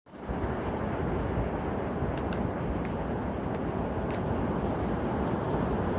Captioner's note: wind Howling